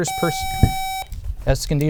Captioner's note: buzzer